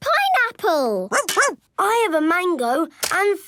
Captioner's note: barks